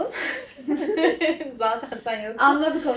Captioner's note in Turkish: kahkaha